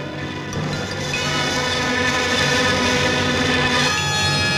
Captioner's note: angry buzzing; dramatic music